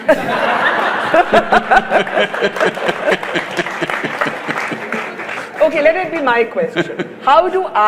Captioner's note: laughs; laughter/Applause; Sadhguru laughs